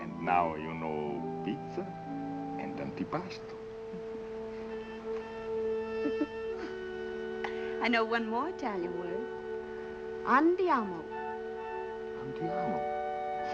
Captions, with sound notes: And now you know, pizza, and antipasto. [laughs] I know one more Italian word. -Andiamo. -Andiamo?